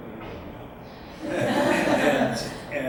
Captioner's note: audience laughs